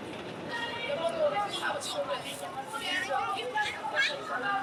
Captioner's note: people chattering